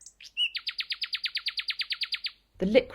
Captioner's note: bird song